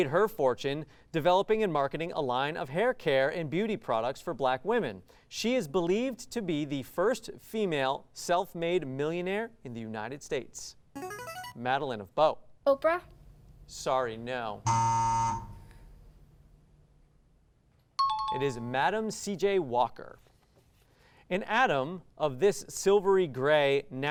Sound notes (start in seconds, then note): 11.0 ring-in sound; 14.6 buzzer sound